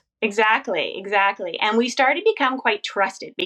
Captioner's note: none